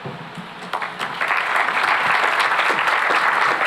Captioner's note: applause